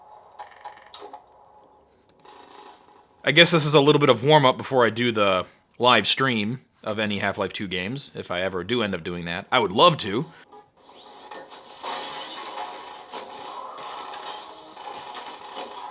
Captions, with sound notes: I guess this is a little bit of warm-up, before I do the live stream of any Half-Life 2 games, if I ever do end up doing that. I would love to. (banging) (guns exploding)